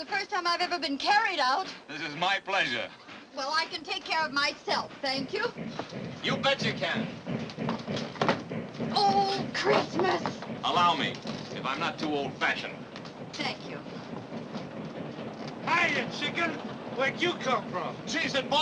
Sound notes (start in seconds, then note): 7.7 locomotive sounds